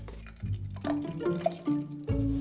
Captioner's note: non-dairy milk pouring